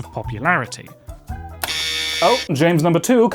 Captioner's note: buzzer